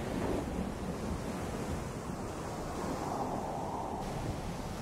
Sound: wind howling

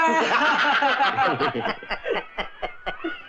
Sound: laughing

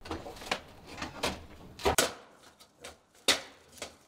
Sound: sheets snapping

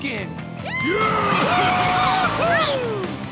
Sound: cheering

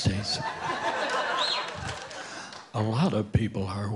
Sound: audience laughing

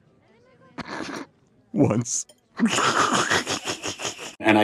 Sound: giggles

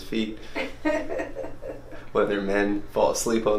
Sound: laughs

